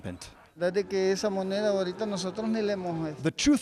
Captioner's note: speaks in foreign language